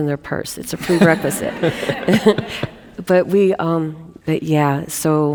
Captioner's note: audience laughing